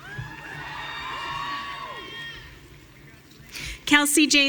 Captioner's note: audience cheering